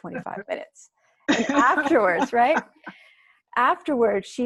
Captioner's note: laugh